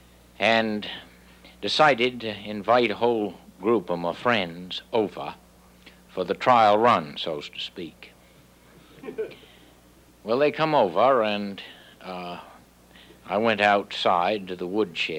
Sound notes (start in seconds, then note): 8.9 audience member laughing